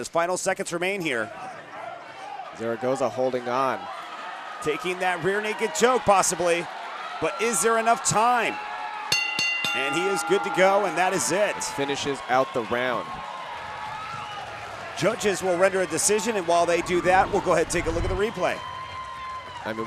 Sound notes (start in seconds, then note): 9.1 bell rings; 14.0 audience cheering